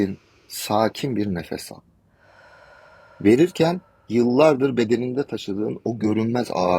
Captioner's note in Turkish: iç çeker